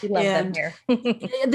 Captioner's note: chuckles